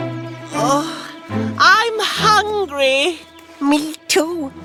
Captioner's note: groaning